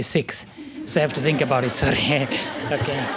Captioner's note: laughter